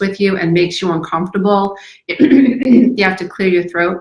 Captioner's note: clears throat